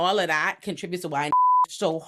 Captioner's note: beep